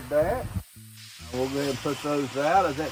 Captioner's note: griddle sizzling